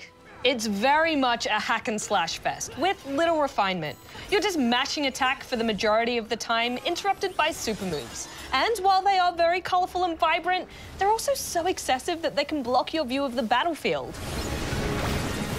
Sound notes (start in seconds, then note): none